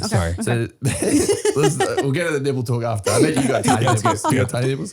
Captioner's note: laughing